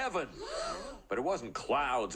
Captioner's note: crowd gasps